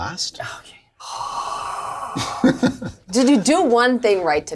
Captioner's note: sighs